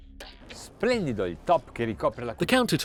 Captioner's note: speaking in foreign language